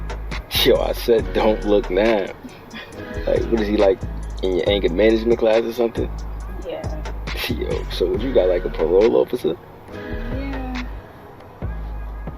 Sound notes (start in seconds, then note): 10.4 laughs